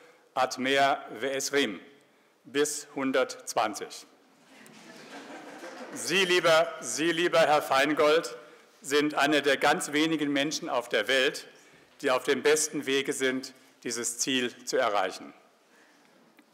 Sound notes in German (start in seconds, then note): 4.5 Publikum lacht